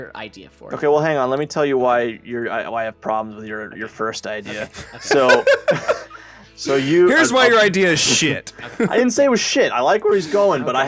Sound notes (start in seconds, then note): 4.5 laughs